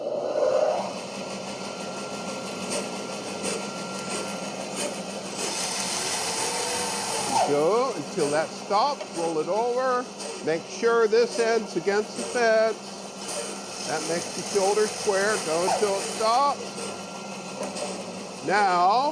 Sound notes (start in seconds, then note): 0.9 band saw cutting; 0.9 band saw running